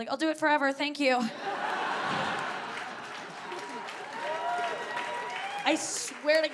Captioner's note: audience laughing and cheering